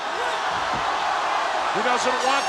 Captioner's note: audience cheers